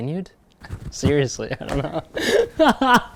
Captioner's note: laughs